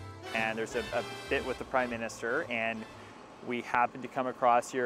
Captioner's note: none